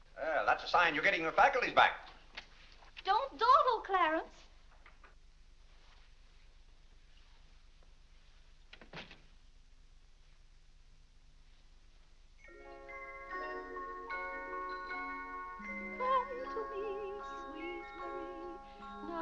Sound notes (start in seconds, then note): 8.7 door closes; 12.4 soft music; 16.2 singing